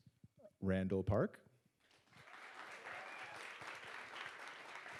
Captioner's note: audience applauds